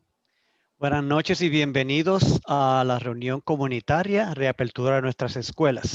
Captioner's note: speaking in foreign language